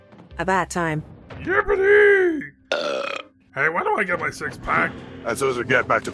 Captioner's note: belches